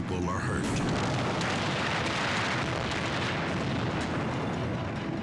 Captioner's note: explosion booming